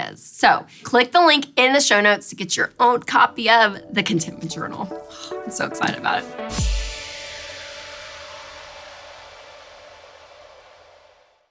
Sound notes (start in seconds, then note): 5.0 light exhale; 6.5 bright music